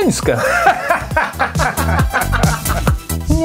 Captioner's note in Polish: śmiech